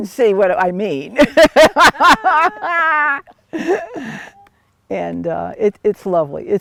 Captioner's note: laugh